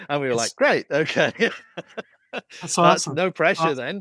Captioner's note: laughs